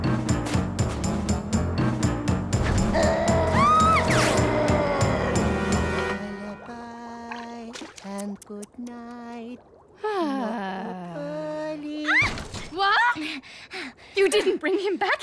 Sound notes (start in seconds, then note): 4.6 squealing; 12.6 sighing